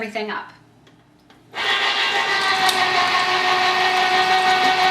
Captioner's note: juicer whirs